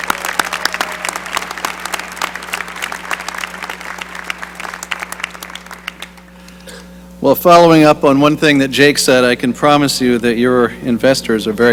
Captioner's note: applause